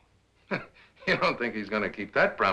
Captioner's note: chuckles